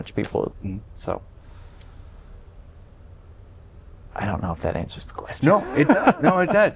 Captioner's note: laughter